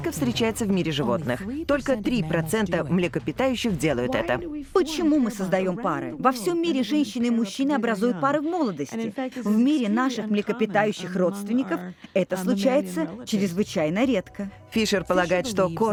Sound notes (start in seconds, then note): none